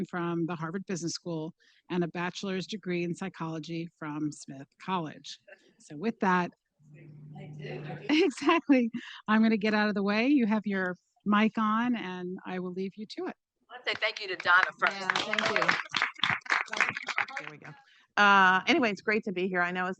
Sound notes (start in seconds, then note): 16.1 participants clapping; 17.5 faintly speaking